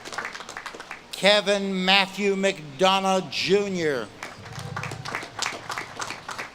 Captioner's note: audience claps and cheers; audience claps and cheers